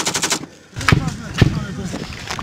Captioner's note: automatic machine gun fire; two loud explosions